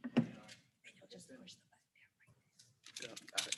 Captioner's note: faintly speaking